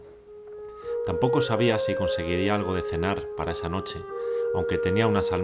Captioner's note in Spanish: Voz en off